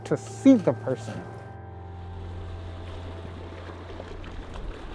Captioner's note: ocean sounds